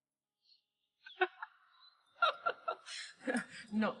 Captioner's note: laughing